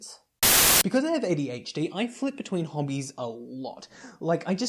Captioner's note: Static